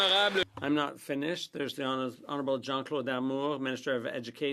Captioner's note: applause